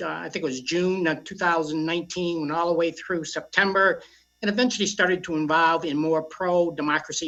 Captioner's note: audio choppy